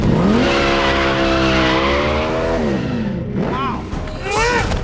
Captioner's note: motorcycle engine roaring; tires screeching